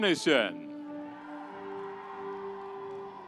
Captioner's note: audience cheering